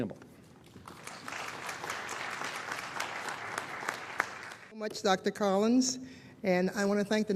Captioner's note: applause